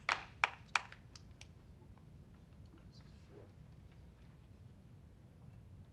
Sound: applause

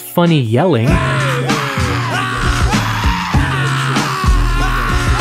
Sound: rhythmic screaming

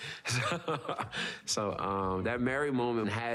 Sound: laughs

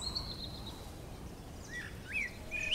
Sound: wind

